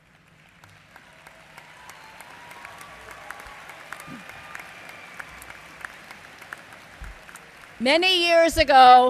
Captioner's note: applause